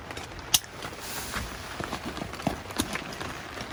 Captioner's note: tent clipping